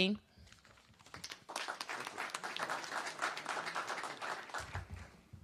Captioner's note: applause